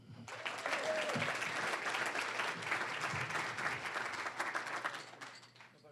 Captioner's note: applause